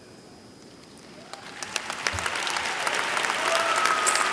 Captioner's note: applause